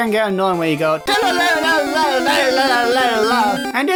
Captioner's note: random encounter sound